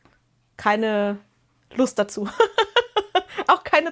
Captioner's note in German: gelächter